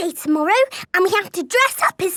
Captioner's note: none